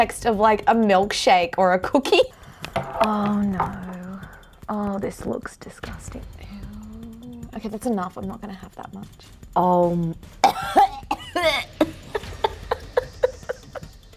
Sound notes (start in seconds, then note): 10.5 gags; 11.2 laughs